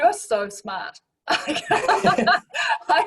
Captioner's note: both laugh